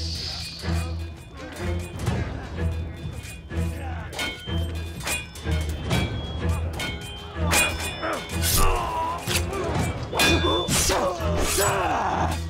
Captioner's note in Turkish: Kılıç ve dövüş sesleri